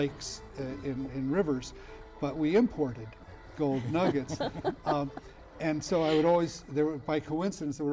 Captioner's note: laughter